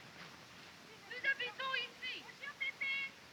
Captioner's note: continue speaking french